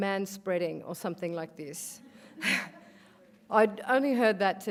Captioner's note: laughs